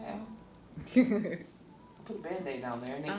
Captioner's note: laughing